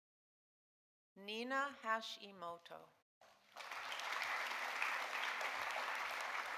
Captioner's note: audience applauding